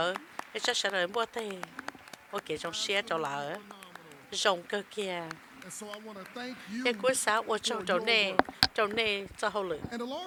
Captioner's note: applause